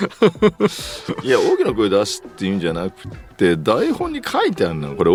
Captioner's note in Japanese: 笑い